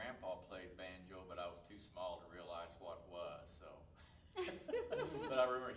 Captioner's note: laughs